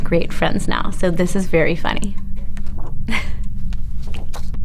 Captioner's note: chuckles